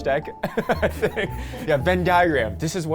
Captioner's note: laughs